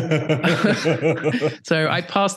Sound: laughter

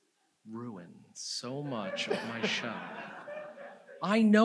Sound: audience laughs

